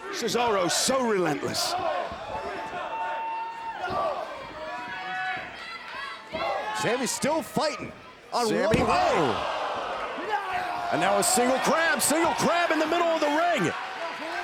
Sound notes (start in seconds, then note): 1.7 crowd chattering; 5.9 crowd shouting; 10.3 wrestlers yelling